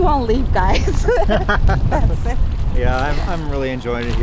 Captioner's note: both laughing